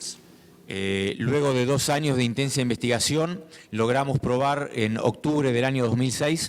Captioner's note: speaking in foreign language